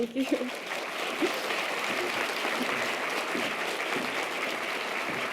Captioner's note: audience applause